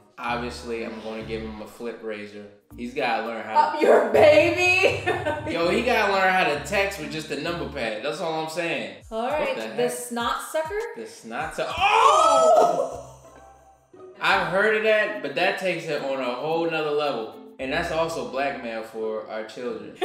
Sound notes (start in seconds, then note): 13.2 shouting